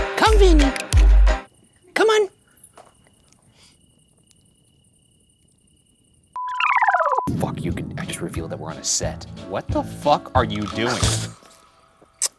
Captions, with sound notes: Come, Vinnie! Come on! (screen beeping)